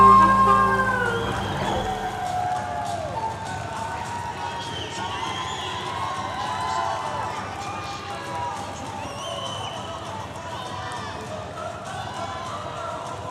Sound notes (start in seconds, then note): 1.5 audience cheering and applauding